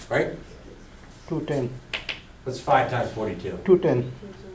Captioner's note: voiceover; voiceover